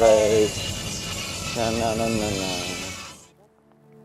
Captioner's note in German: Summen